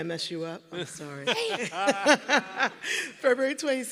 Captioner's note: everyone laughing